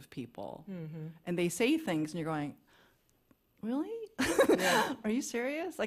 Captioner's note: laughs